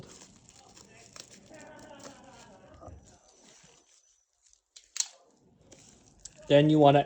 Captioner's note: cutting bubble wrap